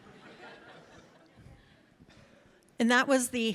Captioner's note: audience laughs